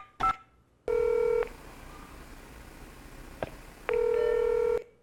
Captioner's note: keypad beeping; telephone ringing